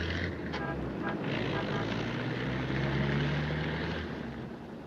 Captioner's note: car engine rumbling; car horn honking